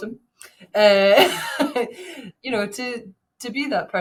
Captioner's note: chuckles